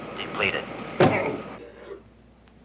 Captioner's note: bang